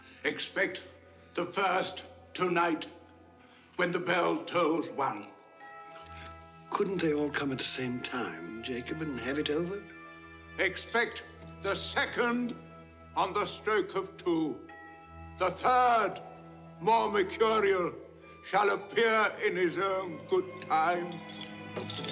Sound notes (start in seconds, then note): none